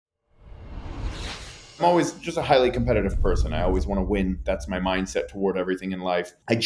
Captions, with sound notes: (air whooshing) - I'm always just a highly competitive person. I always wanna win. That's my mindset toward everything in life.